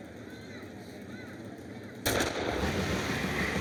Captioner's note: shoots gun; rock music